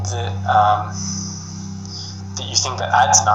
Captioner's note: sighs